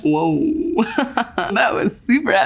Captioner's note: laughs